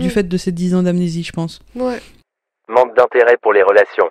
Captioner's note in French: Voix off